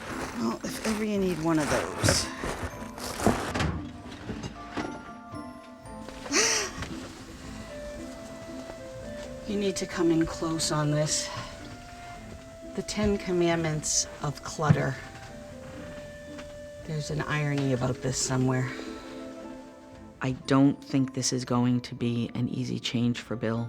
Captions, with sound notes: If ever you need one of those. [gasps] You need to come in close on this. The Ten Commandments of clutter. There's an irony about this somewhere. I don't think this is going to be an easy change for Bill.